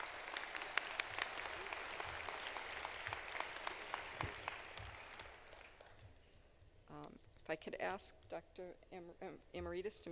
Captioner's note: applause